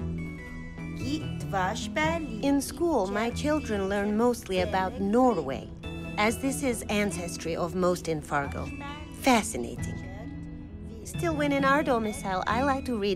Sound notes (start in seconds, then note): 1.5 speaking Czech